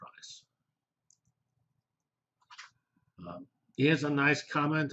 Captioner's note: pause